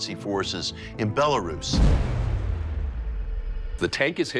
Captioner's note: booming sound